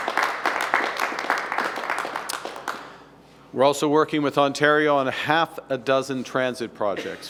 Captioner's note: applause